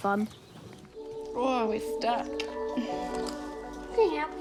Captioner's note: grunts